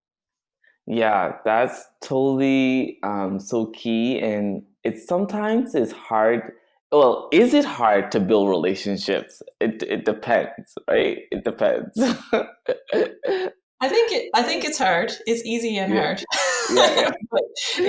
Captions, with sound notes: - Yeah, that's totally so key, and sometimes it's hard. Well, is it hard to build relationships? It depends, right? It depends. (chuckles) - I think it's hard. It's easy and hard. (laughs) - Yeah.